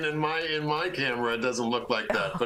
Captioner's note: laughter